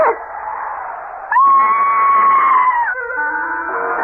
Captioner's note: screaming